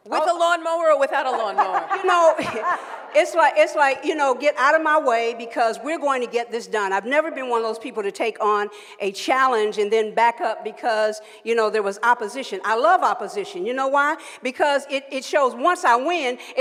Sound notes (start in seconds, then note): 1.1 laughs